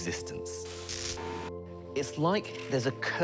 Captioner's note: static buzzes